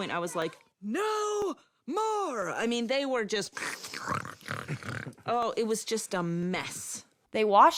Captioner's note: pig noises